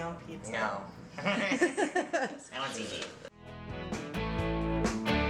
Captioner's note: audible laugh